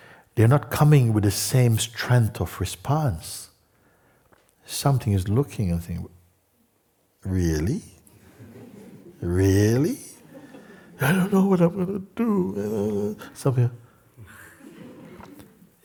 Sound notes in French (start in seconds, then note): 8.2 rires